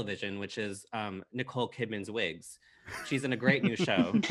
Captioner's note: group laughs